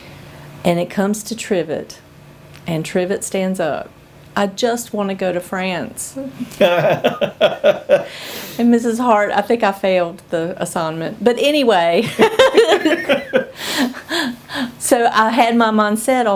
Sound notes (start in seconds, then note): 6.4 laughs; 12.0 laughter